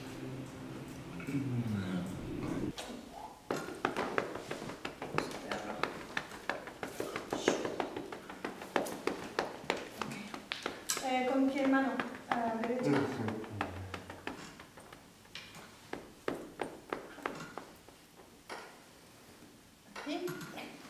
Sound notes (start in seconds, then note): 3.4 in the background, makes percussive noises with his body